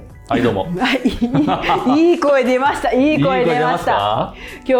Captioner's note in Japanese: 笑い